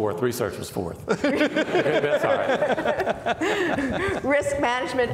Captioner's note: laughing